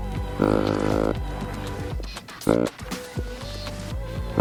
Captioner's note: deer call grunting